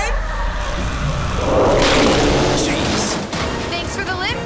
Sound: roaring

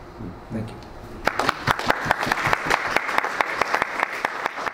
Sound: all applauding

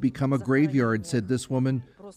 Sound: speaking Foreign Language

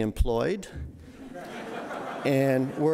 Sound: audience laughing

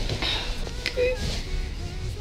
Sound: emitting cringe noises

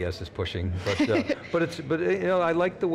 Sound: laughs

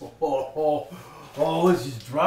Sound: chuckling obnoxiously

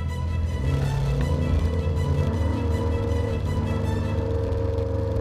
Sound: boat engine revs

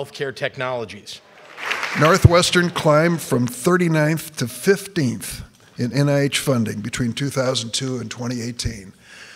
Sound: applause

